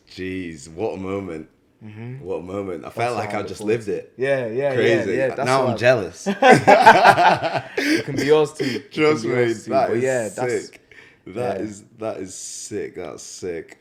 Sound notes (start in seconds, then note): 6.4 laughs